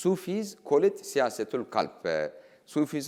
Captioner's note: speaking in foreign language